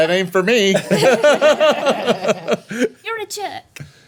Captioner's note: everyone laughing